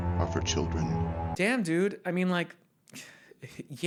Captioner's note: sighs